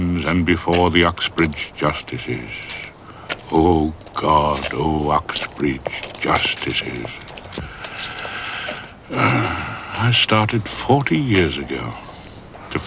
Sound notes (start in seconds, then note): 9.0 sighs deeply